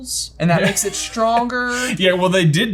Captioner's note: chuckles